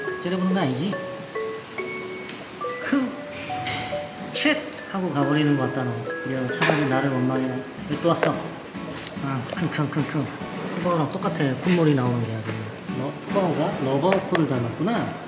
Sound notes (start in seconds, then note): 8.8 sniffing